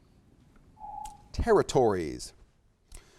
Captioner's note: alarm echoes